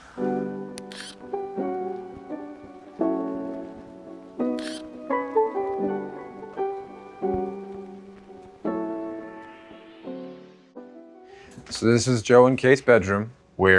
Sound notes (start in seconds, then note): 0.2 chill music; 0.2 graphics buzzing; 7.3 chill music